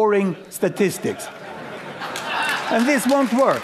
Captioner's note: laughter; applause